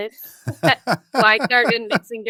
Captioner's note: both laughing